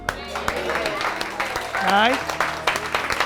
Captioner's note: clapping and cheering